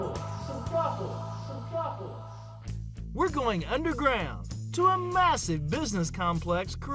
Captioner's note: echo